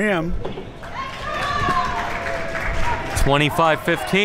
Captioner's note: crowd cheers